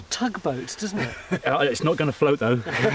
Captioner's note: laughs